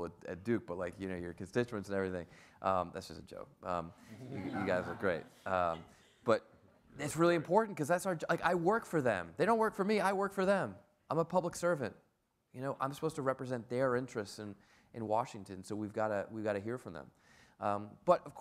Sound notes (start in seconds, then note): 4.1 audience laughs